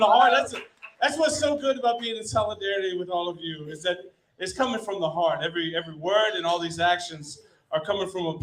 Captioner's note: applause